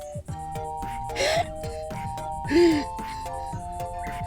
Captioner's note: sobbing